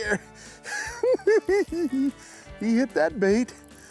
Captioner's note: giggle s